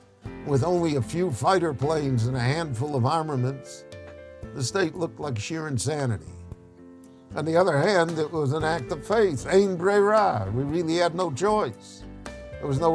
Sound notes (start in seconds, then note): 9.7 speaks Hebrew